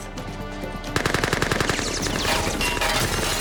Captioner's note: gunfire